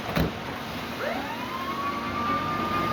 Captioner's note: siren